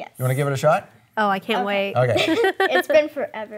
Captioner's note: chuckling